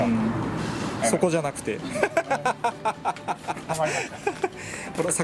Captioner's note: laughs